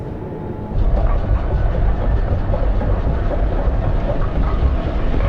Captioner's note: mechanical rumbling